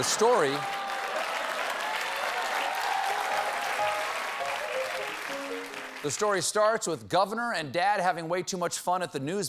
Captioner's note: laughter; applause